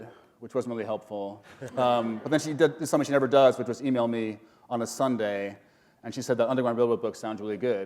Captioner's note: chuckle